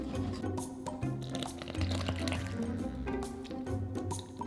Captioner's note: liquid pouring